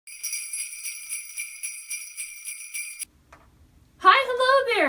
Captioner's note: bells jingling